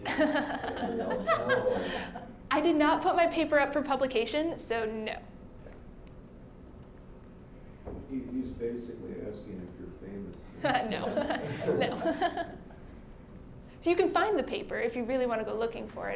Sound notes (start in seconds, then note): 0.0 laughing; 10.6 all chuckling